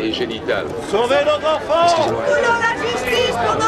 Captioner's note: shouting